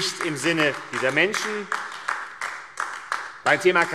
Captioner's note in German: Beifall AfD